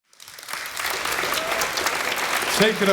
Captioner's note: audience applauding